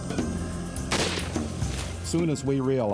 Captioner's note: gunfire